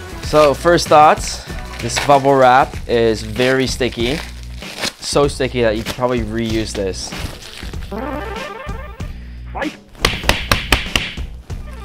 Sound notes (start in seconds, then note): 7.9 retro video game noises; 9.9 punching sounds